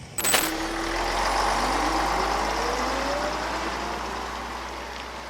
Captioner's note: bus noise